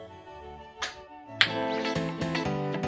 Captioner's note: tongue pop